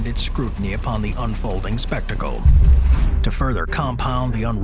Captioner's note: printing machine whirring